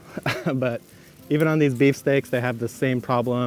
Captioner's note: laughs